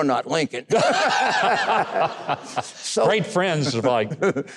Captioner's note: audience and host laughs